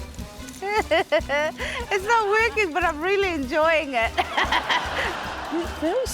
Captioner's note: laughs